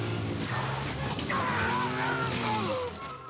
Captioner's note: yelling